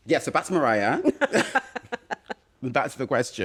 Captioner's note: laughter